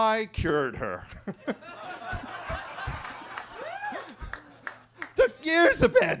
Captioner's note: attendee cheers; everybody laughing